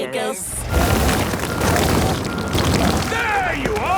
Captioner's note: rock crumbling